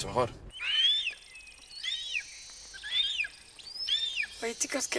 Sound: birds cawing

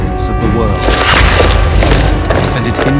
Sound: suspenseful music; boots thudding

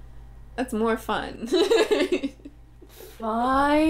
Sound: laughter

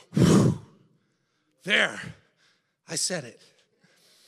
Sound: exhales loudly

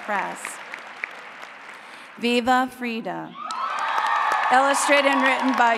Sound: applause

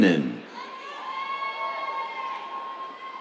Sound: cheers

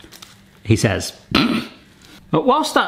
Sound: snorting with laughter

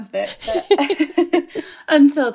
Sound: laughter

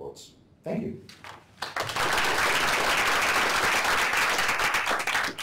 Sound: applause

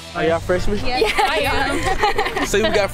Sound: laughs

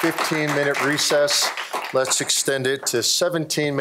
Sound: applause

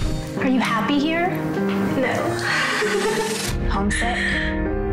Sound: chuckles

